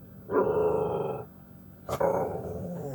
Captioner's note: Spaike growls angrily